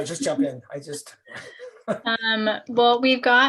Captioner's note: laughter